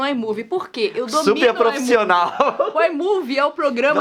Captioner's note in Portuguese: risos